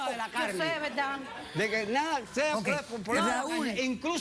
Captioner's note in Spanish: risas